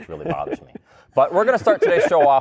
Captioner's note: laughter